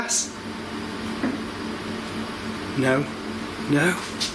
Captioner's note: thumps